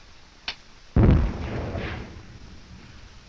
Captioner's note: explosions continue